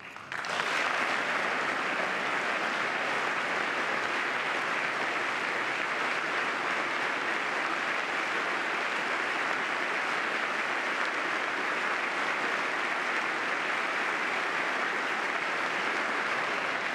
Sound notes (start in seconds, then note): 4.9 applause